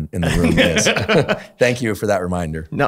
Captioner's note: laughter